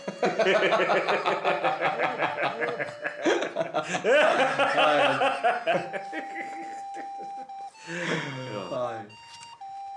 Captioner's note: ominous and evil laughter